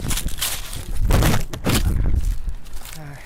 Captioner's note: crash